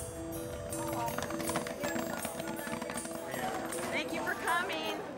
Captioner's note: popcorn popping